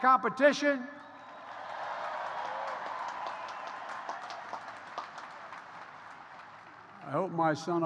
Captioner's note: applause